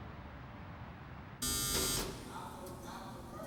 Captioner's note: buzzer